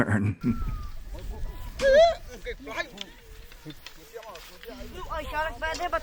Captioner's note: villagers speaking Yanomami